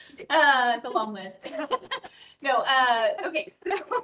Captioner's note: laughs